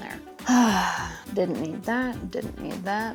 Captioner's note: sighs